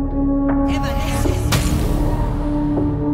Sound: chanting invisibility spell

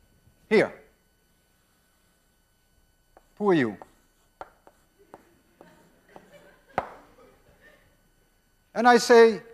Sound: class laughs

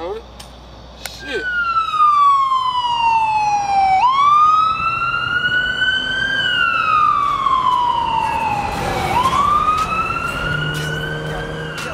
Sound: siren

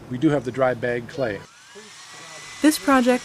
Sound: sound of mixer and talking

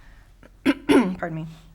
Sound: clears throat

